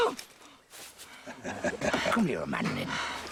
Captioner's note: grunting; laughing